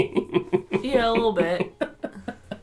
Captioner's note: laughter